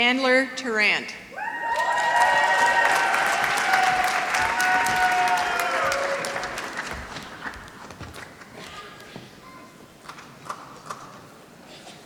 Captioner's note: applause